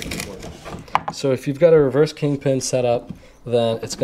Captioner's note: pat